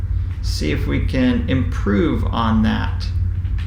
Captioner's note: keyboard typing sound